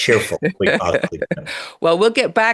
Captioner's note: laughs